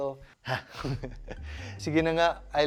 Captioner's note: chuckles